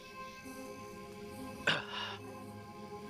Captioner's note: groans